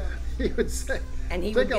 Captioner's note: laughs